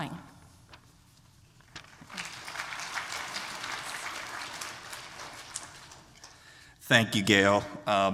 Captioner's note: applause